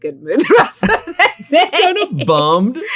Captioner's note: both laugh